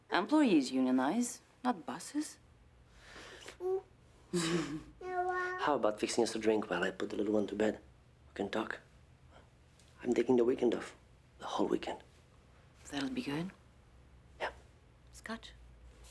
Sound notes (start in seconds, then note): 4.3 Louise chuckles; 5.0 Suzanne babbles